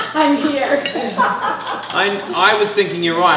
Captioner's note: audience laughing